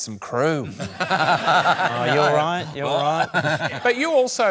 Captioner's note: laughs